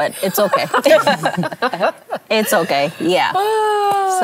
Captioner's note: laughter